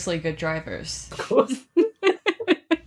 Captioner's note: laughing